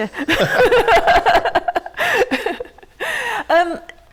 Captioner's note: laughter